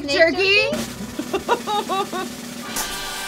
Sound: laughing

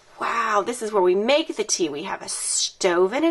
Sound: none

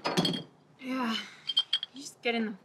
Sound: bottles clang

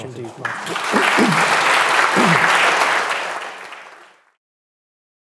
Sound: audience applauds

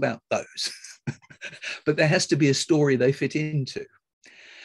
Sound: laughs

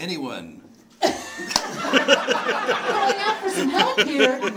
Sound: audience laughing

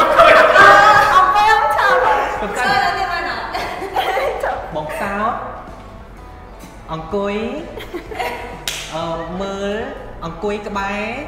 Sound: laugh

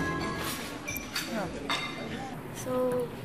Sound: people chattering

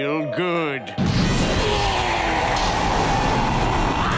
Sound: roaring; screaming

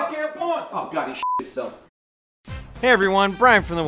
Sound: beep

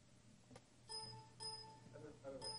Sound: computer beep

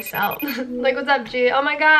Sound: chuckles

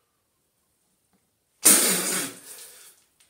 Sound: spits

